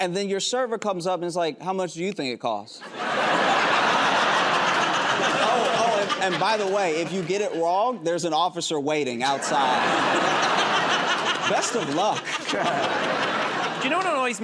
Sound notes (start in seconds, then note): 2.8 laughter and applause; 9.3 laughter